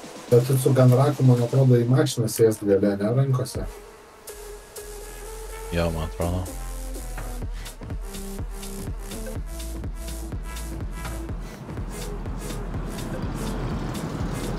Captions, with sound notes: I think you can sit in a car with a gun rack in your hands, no? Yeah I think. [audible vehicle]